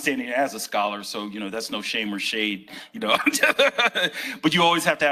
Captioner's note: laughs